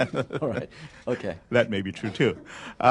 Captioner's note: laughter